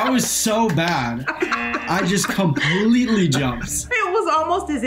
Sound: buzzer

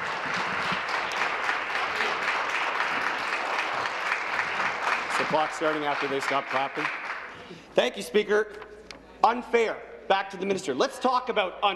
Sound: applause

